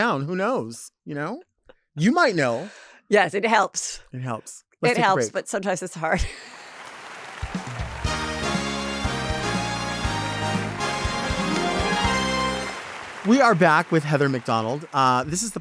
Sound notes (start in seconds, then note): 7.2 audience applauds